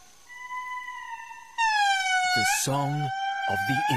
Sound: lemurs howling

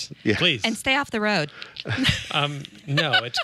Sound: laughs

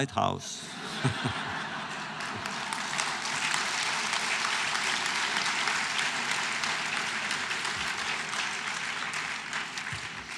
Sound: laughter, applause

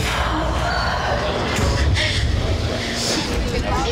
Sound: high intensity music; sobbing

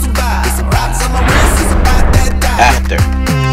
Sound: whoosh Swoosh

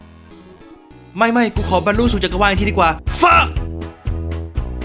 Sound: polite exclamation

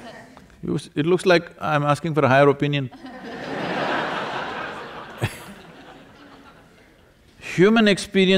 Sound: laughter

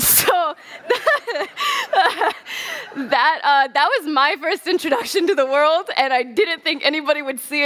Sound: laughs

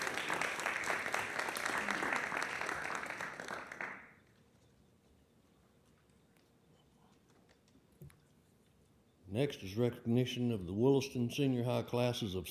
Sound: applause

